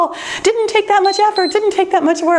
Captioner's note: timer beeps